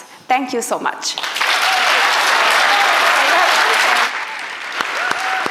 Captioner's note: applause